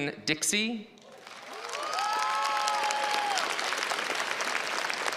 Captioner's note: crowd applauds